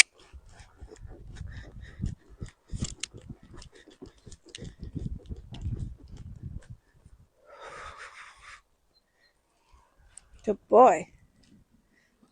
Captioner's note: click click